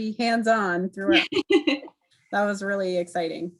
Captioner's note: laughing